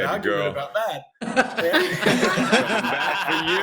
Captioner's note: laughter